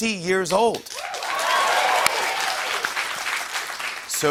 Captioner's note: cheers and applause